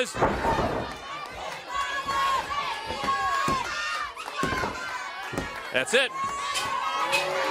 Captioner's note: crowd chatter